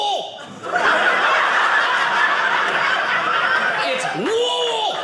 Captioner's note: audience laughing